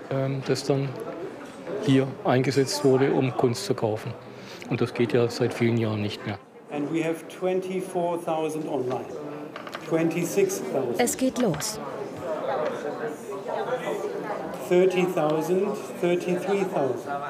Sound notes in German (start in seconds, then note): 12.4 Stimmengewirr; 14.5 englisch